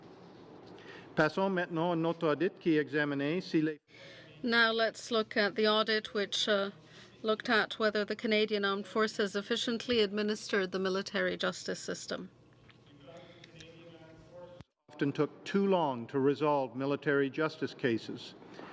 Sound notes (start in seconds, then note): 4.4 speaking in french